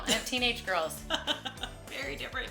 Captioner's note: laughing